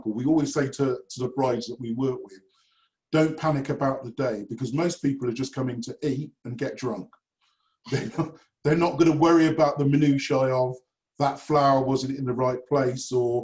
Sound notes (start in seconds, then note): 7.8 chuckles